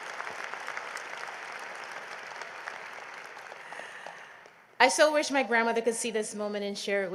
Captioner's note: applause